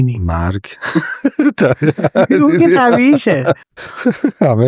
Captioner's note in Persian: خنده